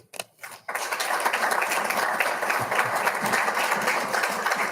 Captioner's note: audience applauding